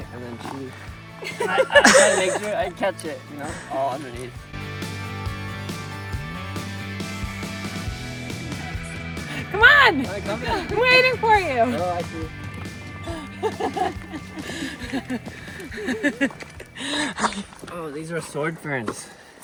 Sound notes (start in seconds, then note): 3.4 girls laugh; 12.9 laughs